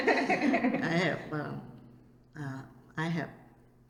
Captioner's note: all laugh